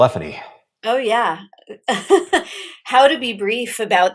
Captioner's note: laughs